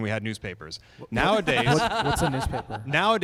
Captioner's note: laughter